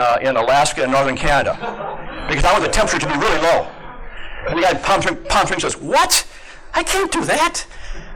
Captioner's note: laugher